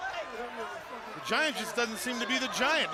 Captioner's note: crowd chatter